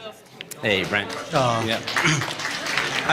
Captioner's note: applause